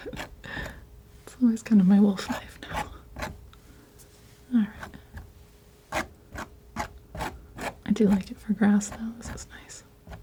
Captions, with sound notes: It's always kind of my wolf knife now. All right. (scratching) I do like it for grass now, this is nice.